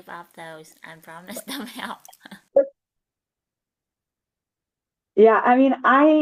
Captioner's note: laugh